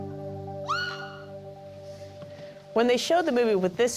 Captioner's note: grunting; shrieking